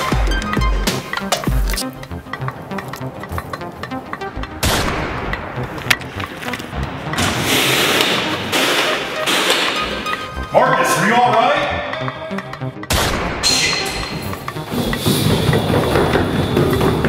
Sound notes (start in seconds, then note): 4.6 gunshot; 7.2 door opens; 12.9 gunshot; 13.5 footsteps